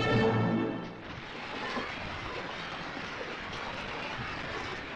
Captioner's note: audience cheering